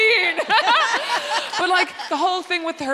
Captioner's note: both laughing